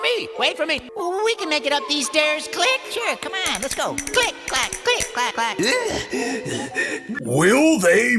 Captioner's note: annoying voices while climbing stairs